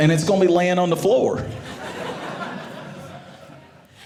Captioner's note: audience laughing